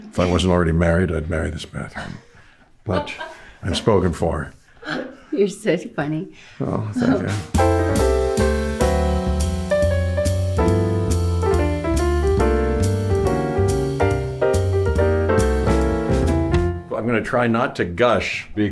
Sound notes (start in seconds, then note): 2.9 laughing; 7.5 bright music